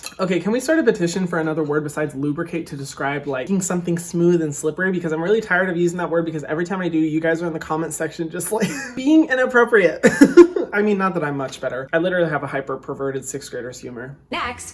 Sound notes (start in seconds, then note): 10.0 laughing